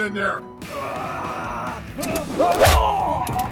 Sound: Reiko lets out a battle cry

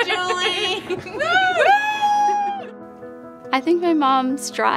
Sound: girls cheering

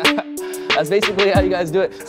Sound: mellow electronic music; laughing

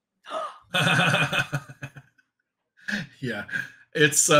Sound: chuckling

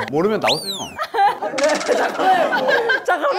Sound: panicking

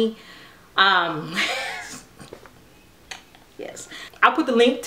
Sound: chuckling

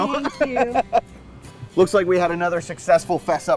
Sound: laughter

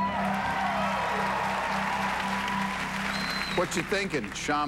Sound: cheers and applause

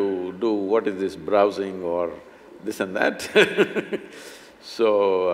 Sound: laughs

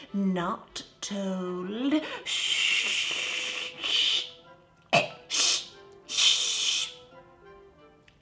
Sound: sputters and then coughs, then continues

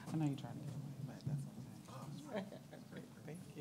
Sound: murmuring

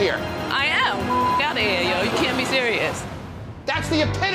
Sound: beep

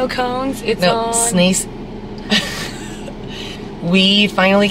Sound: laughing together

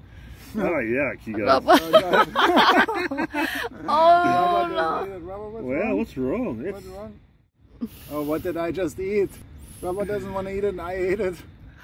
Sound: laughter

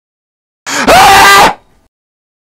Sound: scream

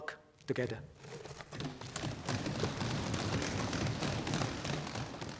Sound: applause

